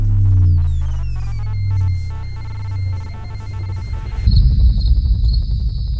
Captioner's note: extraterrestrial beeping; crickets chirping